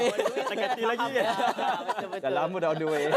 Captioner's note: laugh